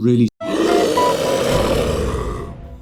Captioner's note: scream